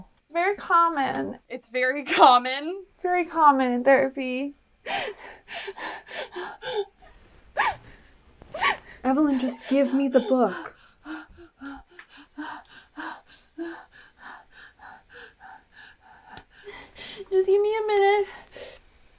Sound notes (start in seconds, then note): 5.6 cries; 11.3 hyperventilates